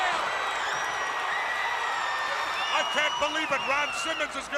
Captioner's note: crowd cheering